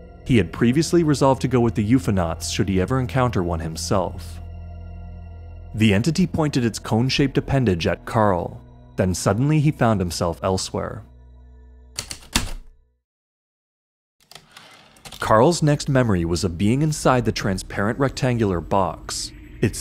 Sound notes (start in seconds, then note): 11.9 typewriter keystrokes, return slide